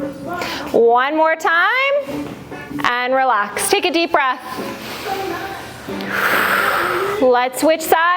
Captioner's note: breath